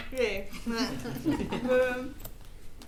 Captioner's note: attendees laughing